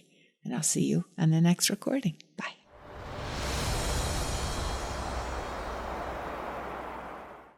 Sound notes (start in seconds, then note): 2.7 wind whooshing; 2.8 soft music